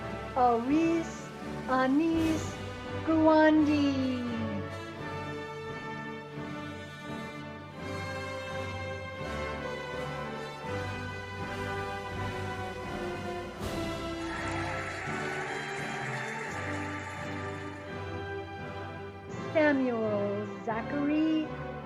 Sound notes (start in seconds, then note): 5.8 cheerful music; 13.7 cheering and applauding